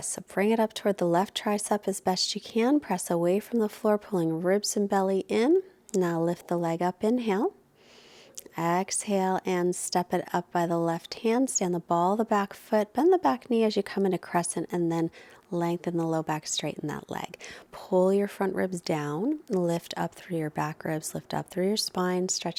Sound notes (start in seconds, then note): 7.7 inhales deeply